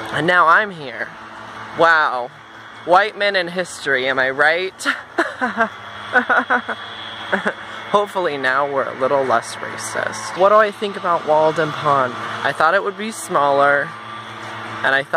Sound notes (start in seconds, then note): 4.8 forced laughter